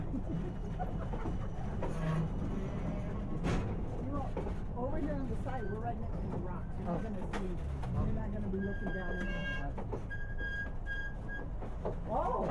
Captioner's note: other passengers chatting